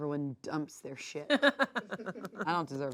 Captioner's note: laughs